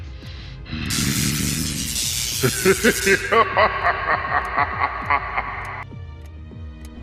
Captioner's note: laughing